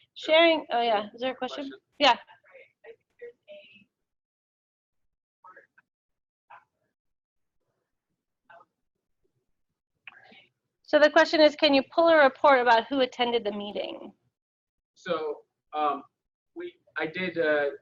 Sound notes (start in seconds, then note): 2.9 mic garbling